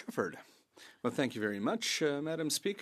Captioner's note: speaking French